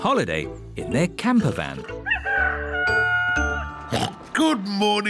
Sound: daddy pig oinks; rooster crowing

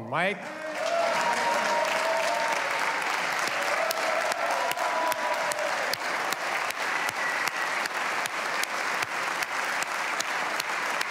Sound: applause

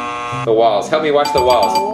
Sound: bell dinging

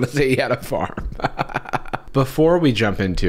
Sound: hearty laughter

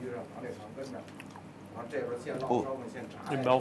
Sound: chewing sounds

